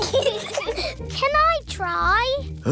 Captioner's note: peppa and george giggle